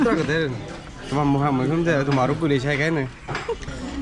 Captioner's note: laughing